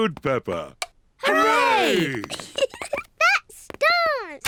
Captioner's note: giggles